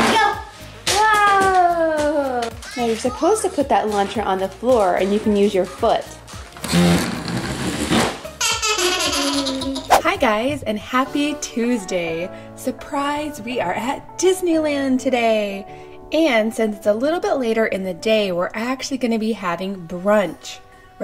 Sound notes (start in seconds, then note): 8.5 laughing